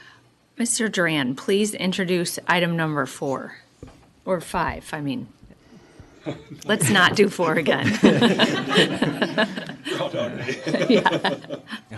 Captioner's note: laughter